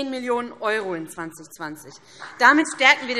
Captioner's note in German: Beifall BÜNDNIS 90/DIE GRÜNEN und CDU